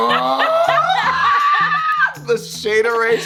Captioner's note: laughing